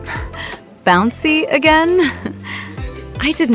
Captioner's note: haha